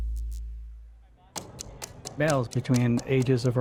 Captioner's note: ticking